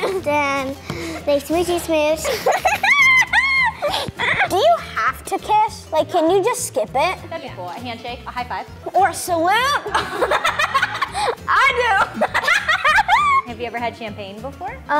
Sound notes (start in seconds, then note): 0.0 laughs; 2.2 boy laughing; 9.7 laughs; 12.0 both laughing